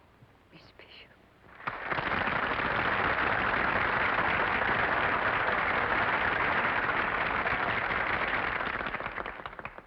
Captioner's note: applause